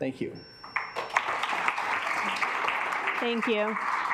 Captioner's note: alarm beeping; assembly clapping